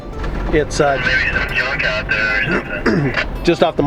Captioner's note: man On Radio